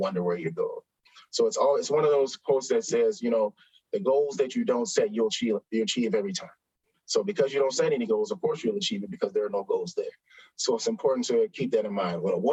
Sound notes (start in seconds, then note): none